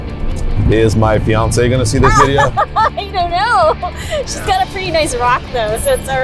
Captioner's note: laughs